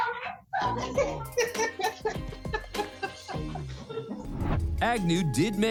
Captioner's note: laughter